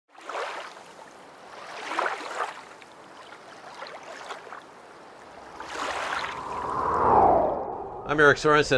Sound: water splashing

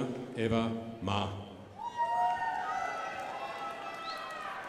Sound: crowd applauding

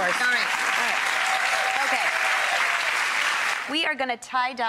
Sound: audience claps

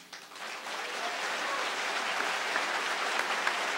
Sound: audience cheers

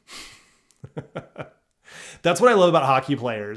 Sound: laughs

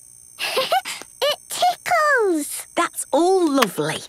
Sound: giggles

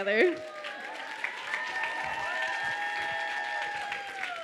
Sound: audience cheers

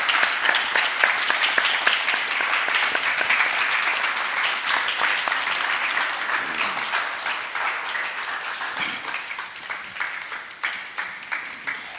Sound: applause

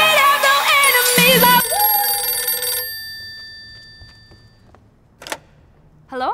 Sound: phone rings

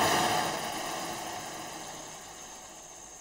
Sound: none

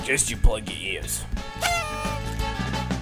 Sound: party horn sound; upbeat music continues

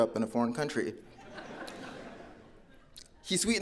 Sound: audience laughing

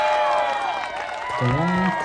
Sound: applause

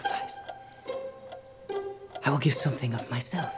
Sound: clock ticking

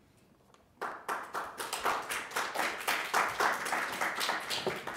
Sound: audience claps

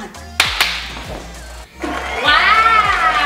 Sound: claps

